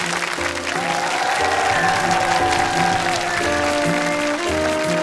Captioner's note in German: Applaus und Jubel im Publikum